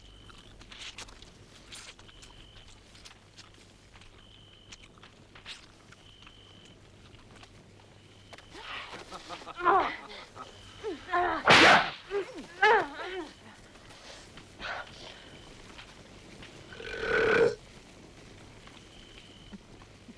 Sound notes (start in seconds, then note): 8.5 Torente laughing; 9.1 wives grunting; 11.4 whip cracks; 16.7 Torente belches